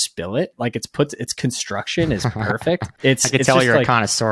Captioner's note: chuckling